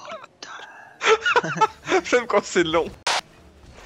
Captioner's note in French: Rires